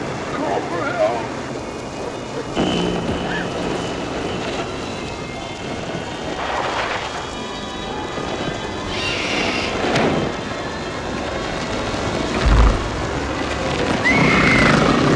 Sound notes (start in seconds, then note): 2.5 buzzing; 8.9 squealing; 13.0 snorting; 14.0 Liz screams